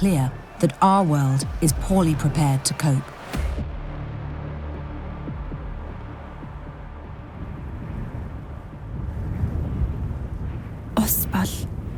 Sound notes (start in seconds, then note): 4.1 music fades; 7.1 wind blowing